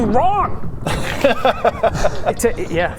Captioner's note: unjust laugh